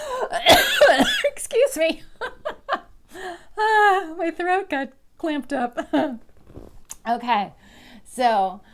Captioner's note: cough